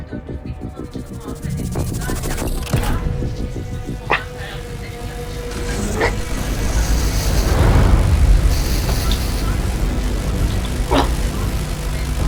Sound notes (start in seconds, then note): 5.8 static noise rises; 10.6 sighs